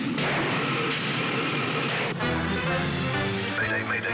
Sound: engine hissing

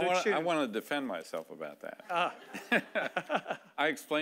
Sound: laughing

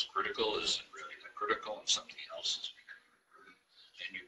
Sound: murmurs

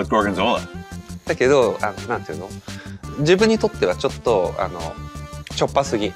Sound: Takeru speaks Japanese

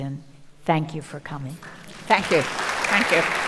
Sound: audience applauding

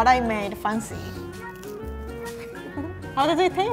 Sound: biting macaron

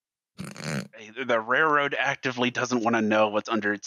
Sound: snorts

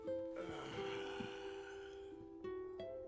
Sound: sighs

